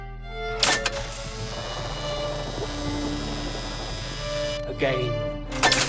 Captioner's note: machine clanks; currents buzzing; machine clanks; currents buzzing